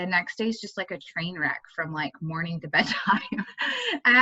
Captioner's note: laughing